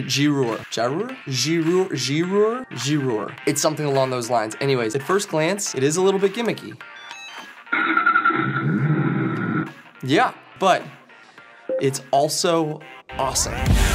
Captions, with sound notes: Gyroor, Jabber, Giroux, Girour, G Roar, it's something along those lines, anyways, at first glance it is a little bit gimmicky. (engine starting) Yeah, but it's also awesome.